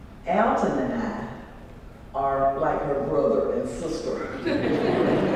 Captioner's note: laugh